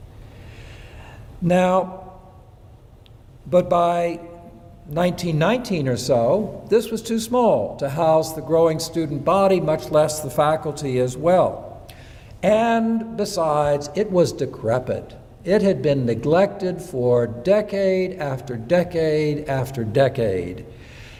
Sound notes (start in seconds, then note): none